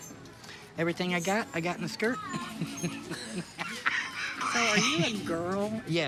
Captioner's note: laughing